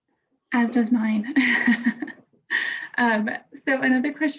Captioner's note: laughs